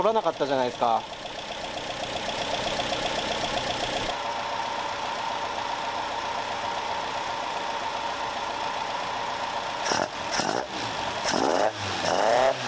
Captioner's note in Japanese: エンジン音